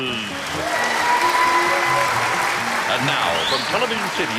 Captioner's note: applauding